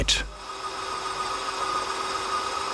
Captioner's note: drilling noises